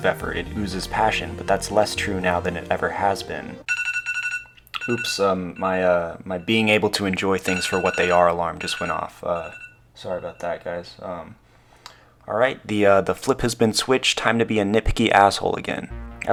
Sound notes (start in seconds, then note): 3.6 iPhone timer